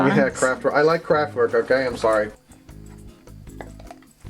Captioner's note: chuckles